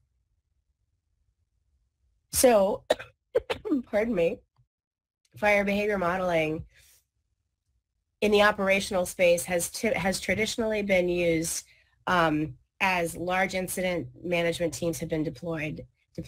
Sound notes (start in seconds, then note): 3.3 coughs